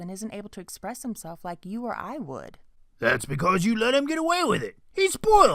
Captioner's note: gruff voice